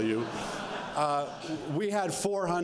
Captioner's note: laughter